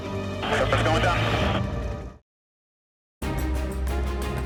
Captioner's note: man Over Radio; dramatic music